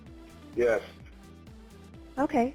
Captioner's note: male Voice